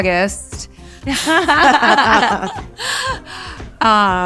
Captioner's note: all laugh